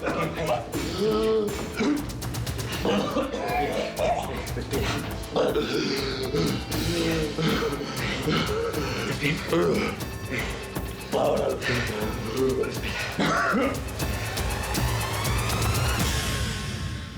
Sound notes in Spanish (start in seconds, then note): 0.0 elio tose y jadea